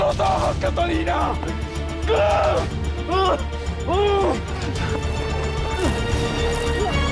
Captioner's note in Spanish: Gritos y quejidos